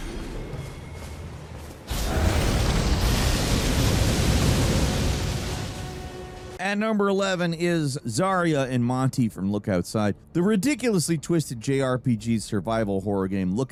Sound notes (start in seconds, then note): 2.1 air whooshing